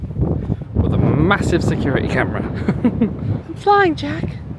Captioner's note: laughs